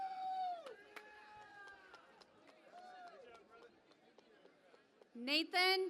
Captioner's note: cheering and Applause